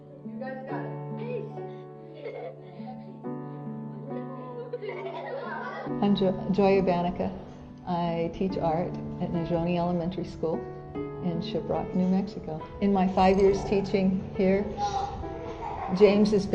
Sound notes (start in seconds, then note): 2.3 kids laughing